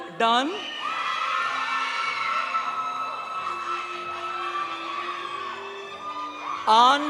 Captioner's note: audience cheering; audience applauding